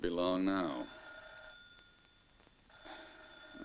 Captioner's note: phone ringing